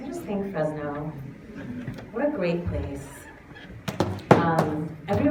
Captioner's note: none